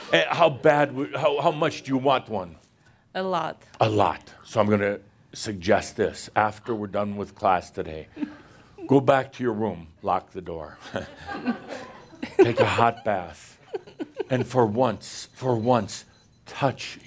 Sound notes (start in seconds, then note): 0.8 more chuckles; 11.1 a few chuckles